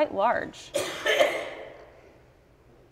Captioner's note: audience member coughs